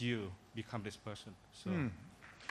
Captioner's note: applause